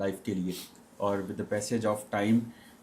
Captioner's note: nasal noise